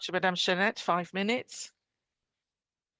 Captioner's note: speaking French